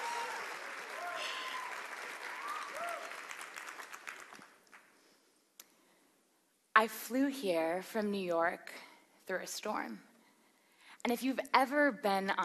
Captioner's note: applause